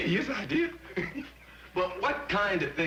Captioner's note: laughs